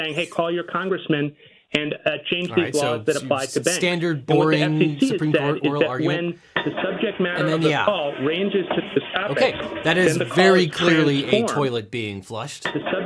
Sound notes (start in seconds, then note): 7.2 toilet flushes